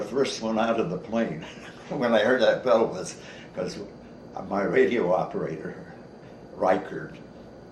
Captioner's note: chuckles